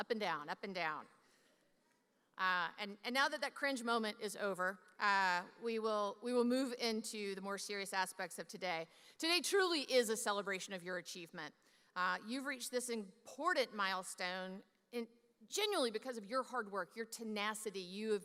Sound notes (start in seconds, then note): none